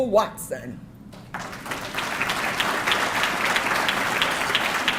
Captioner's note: audience clapping